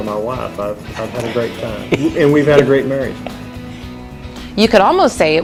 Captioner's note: laughs